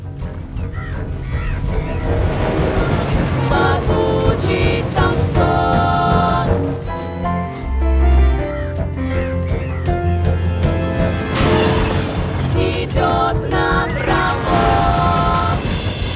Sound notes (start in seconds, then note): 0.5 crows cawing; 3.0 female trio singing